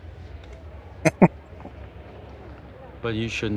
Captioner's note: chuckling